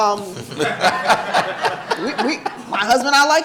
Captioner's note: audience laughing